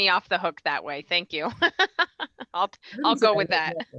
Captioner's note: laughing